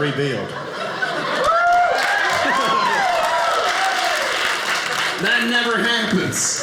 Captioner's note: audience applauding